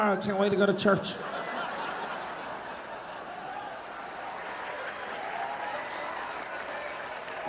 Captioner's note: audience laughing, cheering and applauding